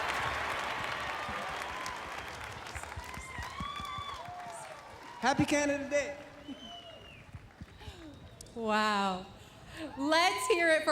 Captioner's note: applause and cheering